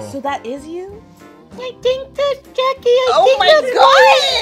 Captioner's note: imitating baby